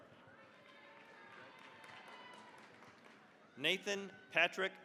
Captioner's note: cheering, applause